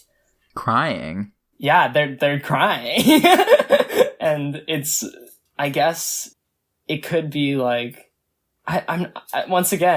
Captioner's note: laughs